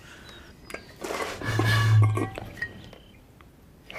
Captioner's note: bottle toots